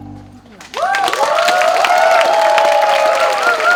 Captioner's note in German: Jubel